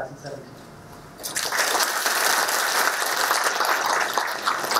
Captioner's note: applause